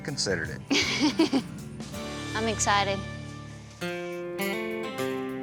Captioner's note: chuckles